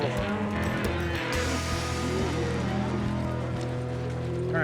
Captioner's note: cattle moo